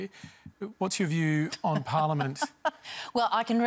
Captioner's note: laughs